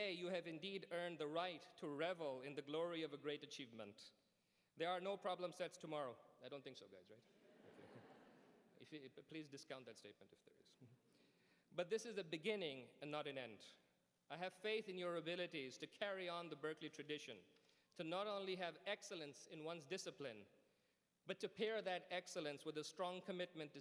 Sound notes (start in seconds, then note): 7.3 laughter